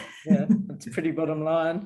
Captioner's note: chuckles